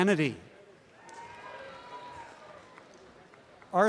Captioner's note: applause and cheering